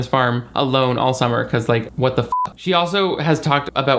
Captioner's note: beep